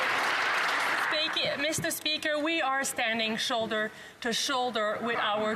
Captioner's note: some Applause